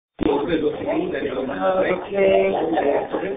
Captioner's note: background Conversation